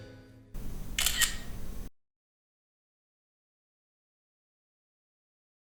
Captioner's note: camera shutter clicking